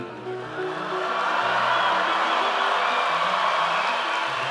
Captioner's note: audience cheers